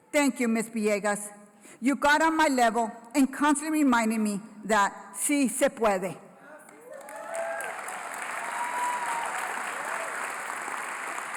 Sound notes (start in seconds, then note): 4.8 foreign language; 6.7 applause, Cheering